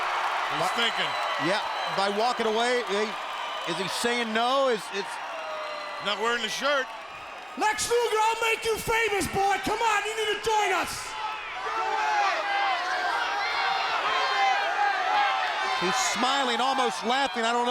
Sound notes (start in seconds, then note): 11.9 people chattering